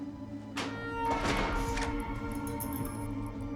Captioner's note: tense music; door thumps shut; tense music